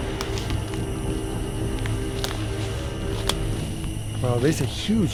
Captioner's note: brush crackling; insects singing